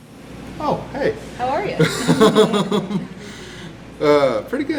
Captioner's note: all laughing